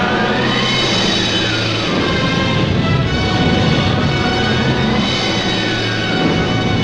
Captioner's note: intense dramatic music; flamethrowers roaring